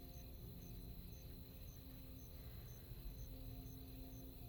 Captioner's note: crickets chirping